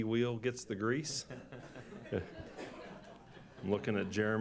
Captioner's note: laughter